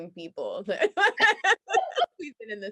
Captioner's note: both laughing